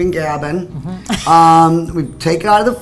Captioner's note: laughs